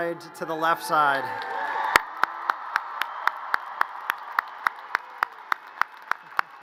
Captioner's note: audience cheers and applause